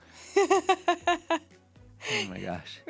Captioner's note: laughter